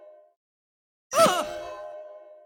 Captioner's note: groan of pain